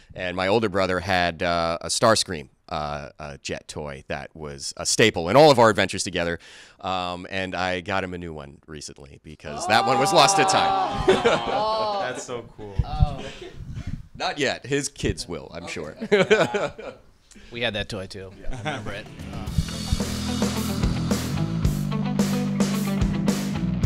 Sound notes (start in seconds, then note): 9.6 laughing; 15.7 laughs; 15.9 cast chuckles; 19.0 chill electric guitar music; 19.5 sighs